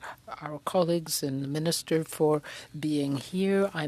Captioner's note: speaking French